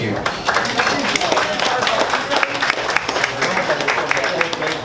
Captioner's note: audience applauds